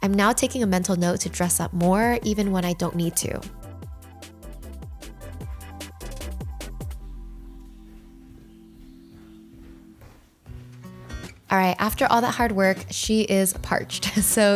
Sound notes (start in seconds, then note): 2.9 serene music; 6.4 footsteps plodding